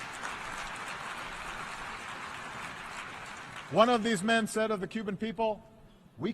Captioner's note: applause